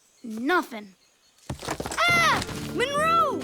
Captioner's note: rock clatters